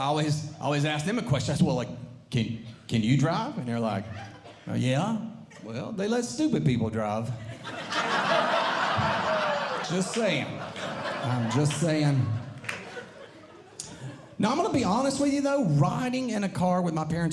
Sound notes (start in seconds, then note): 7.4 audience Laughing